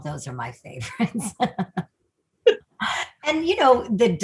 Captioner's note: laughs